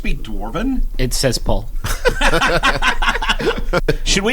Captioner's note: laughter